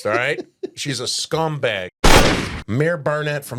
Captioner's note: laughs; sound of gunshot